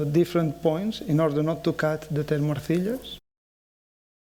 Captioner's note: speaking spanish